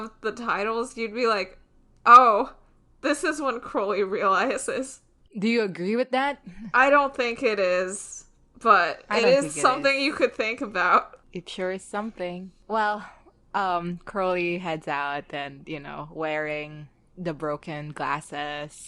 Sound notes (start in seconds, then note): none